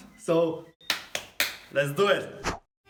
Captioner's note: claps